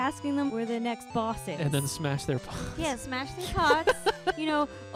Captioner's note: laughing